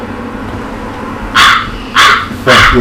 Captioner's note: bird cawing